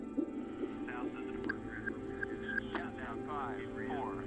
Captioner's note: radio chatter